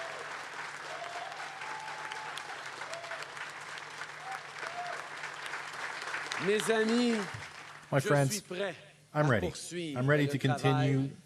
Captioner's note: cheering and Applause